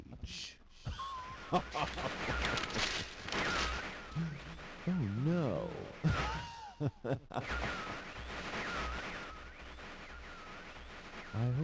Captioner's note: rips out page